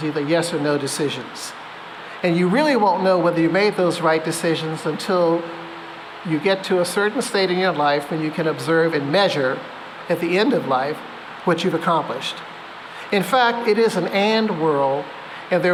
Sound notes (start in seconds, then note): none